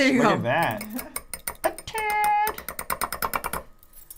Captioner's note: bowl clinking